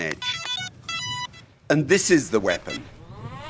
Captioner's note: electronic beeping